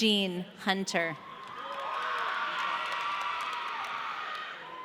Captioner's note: audience cheering